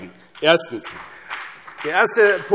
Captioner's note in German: Beifall